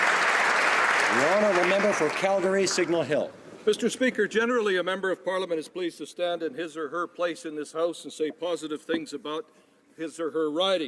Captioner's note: applause